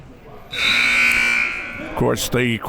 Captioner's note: siren blaring